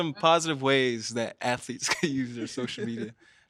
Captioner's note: chuckles